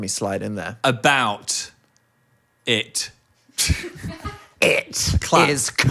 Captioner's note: chuckles